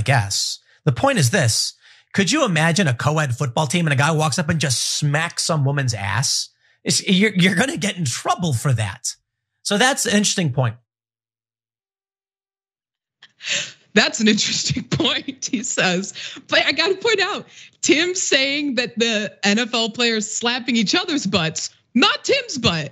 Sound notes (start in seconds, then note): 15.1 laugh